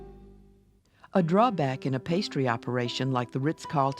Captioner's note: voiceover